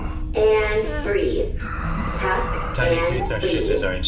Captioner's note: noises of exertion and controlled breathing from the crew